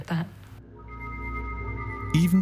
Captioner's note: eerie noises